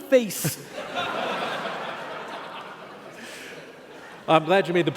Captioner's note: laughing